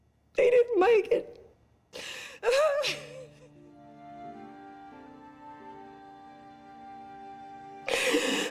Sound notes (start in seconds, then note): 1.4 cries; 4.8 somber music